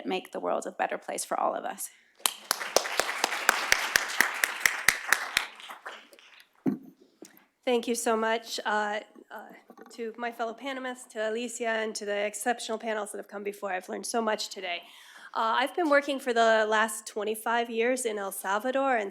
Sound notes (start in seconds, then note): 3.8 applause